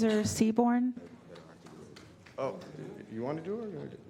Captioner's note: applause